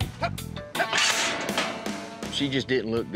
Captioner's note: clanging sound